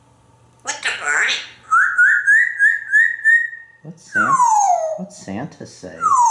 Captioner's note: birdie sounds